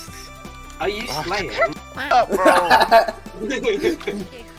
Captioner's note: laughter